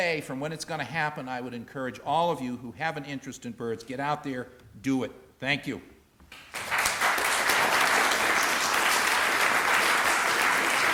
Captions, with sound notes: from when it's going to happen. I would encourage all of you who have an interest in birds, get out there, do it. Thank you. [APPLAUSE]